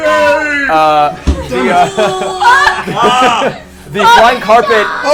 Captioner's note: worried noises